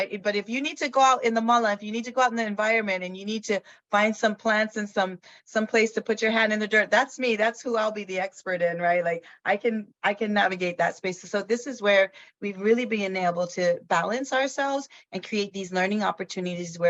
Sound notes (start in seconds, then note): 1.4 speaks in foreign language